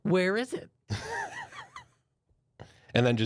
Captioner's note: softly chuckles